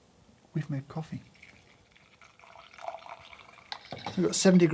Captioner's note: coffee pours